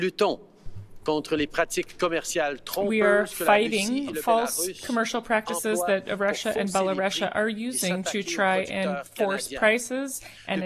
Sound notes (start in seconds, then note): 5.0 speaking French